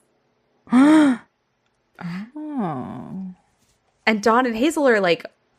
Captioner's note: gasps